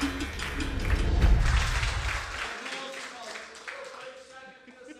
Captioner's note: applause